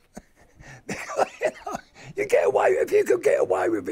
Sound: he laughs

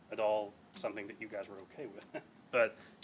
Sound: chuckles

